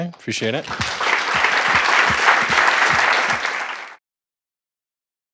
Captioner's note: applause